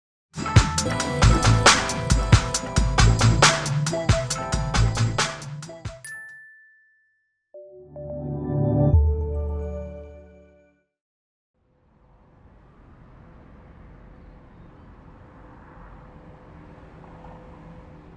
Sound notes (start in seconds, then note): 12.0 traffic noises